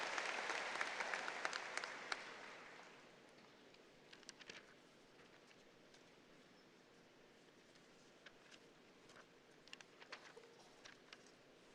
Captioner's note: applause